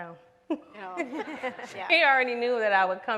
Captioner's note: everyone laughs